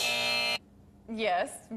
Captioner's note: buzzer